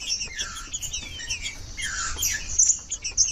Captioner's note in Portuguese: trinca ferro cantando